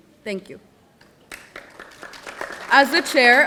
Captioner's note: audience applauding